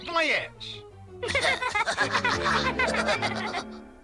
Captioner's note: laugh